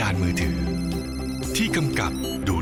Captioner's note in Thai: เสียงโทรศัพท์